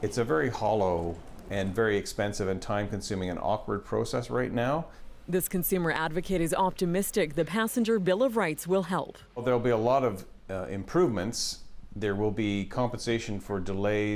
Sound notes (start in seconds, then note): none